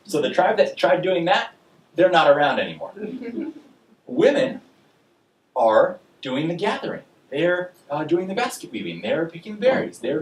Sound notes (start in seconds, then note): 3.1 audience laughing